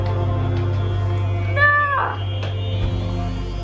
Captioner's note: exasperated noises